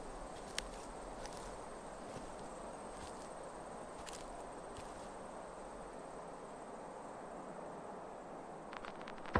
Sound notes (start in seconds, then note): 0.8 footsteps